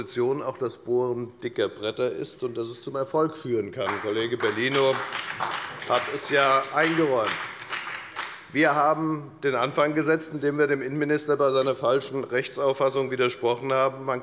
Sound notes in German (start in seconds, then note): 7.1 Beifall bei der FDP und der SPD